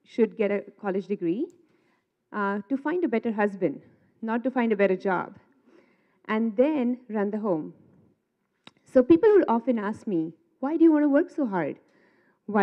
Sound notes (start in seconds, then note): none